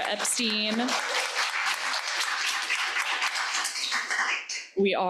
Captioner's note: crowd applauding